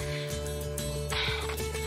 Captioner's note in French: sighs